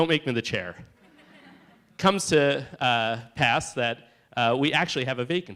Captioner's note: laughter